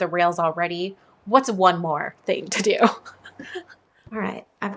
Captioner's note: laughs